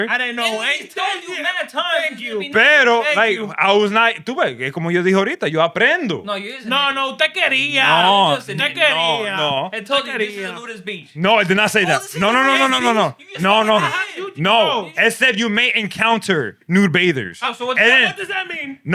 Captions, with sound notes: (Non-english Speech) But I was not-- (Non-english Speech) No, you isn't. No, no. (Non-english Speech) No, no. (Non-english Speech) No, I did not say that. No, no, no, no, no, no. No, no, no. No, it said you may encounter new bathers. What does that mean?